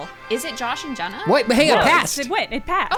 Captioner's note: celebratory trumpets playing; pat